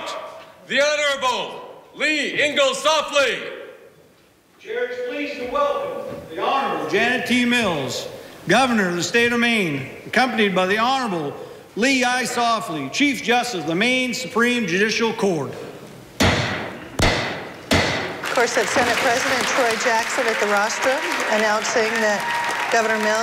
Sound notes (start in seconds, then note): 16.0 audience applauding; 16.2 gavel banging